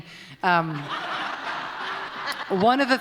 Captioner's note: laughter